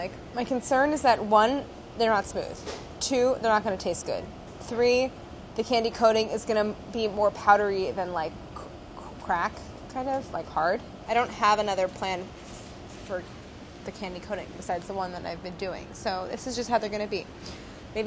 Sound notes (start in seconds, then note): none